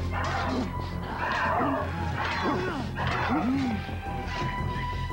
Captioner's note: grunting